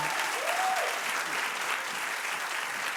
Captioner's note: cheering